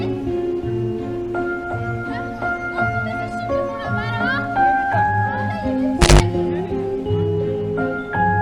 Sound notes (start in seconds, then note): 6.9 sudden screech